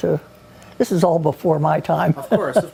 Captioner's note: chuckles